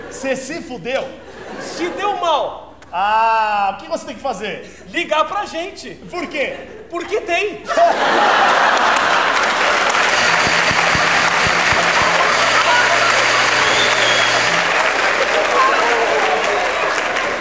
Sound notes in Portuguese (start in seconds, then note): 8.8 campainha e aplausos